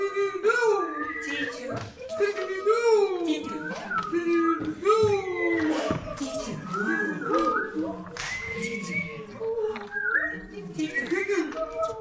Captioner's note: bird sounds continue